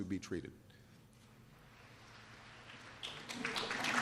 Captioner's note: applause